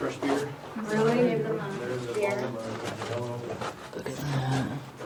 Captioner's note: people murmuring